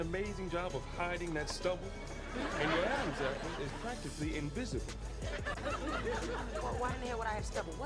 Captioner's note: laugh Track